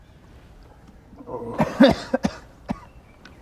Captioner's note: coughs